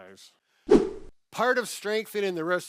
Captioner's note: air whooshes